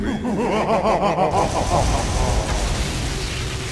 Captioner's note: El Oscuro laughs evilly